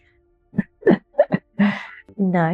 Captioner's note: laughs